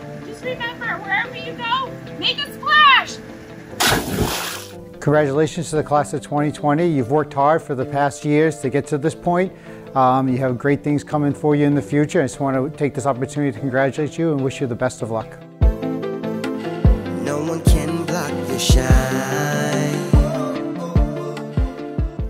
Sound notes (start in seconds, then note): 3.8 water splashing